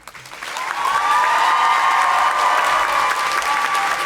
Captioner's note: audience applauding